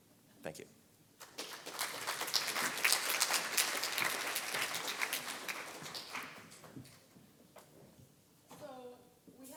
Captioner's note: applause